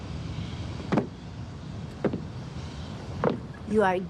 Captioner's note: footsteps approach